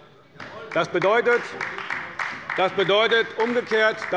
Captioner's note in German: Beifall bei Abgeordneten der CDU